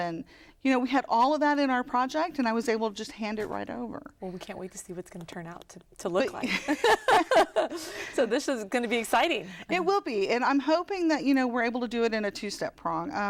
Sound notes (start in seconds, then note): 6.4 laughter